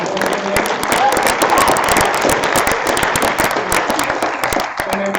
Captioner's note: applause